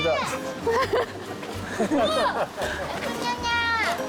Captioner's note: failed to hold back laughter